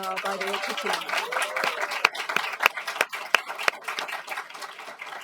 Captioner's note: applause